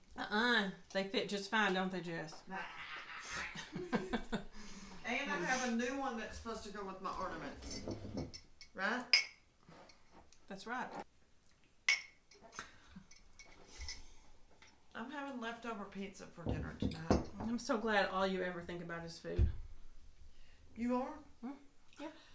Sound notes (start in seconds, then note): 2.5 happy noises; 11.8 cups clink